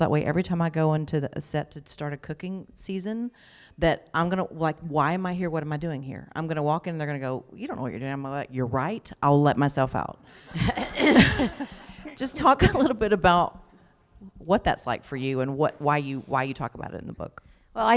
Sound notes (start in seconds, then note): 10.5 laughter